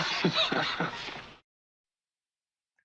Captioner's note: laughing